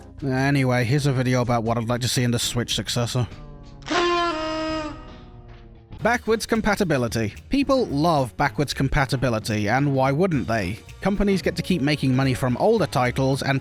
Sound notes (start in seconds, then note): 3.8 exceptionally Depressed Party Horn.wav